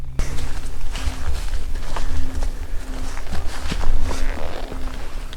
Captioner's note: suspenseful music continues; leaves rustling